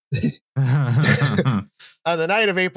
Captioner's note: laughter